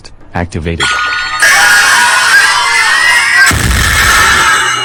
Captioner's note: Logic Blast sound; boom